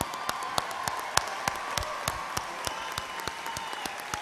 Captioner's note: applause